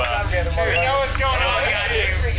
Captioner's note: bar chattering